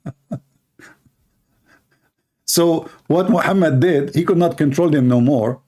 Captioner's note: Ketawa